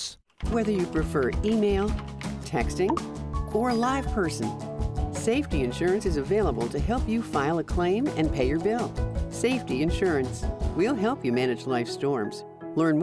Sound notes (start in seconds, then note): 2.9 cellphone chirps; 3.5 cellphone rings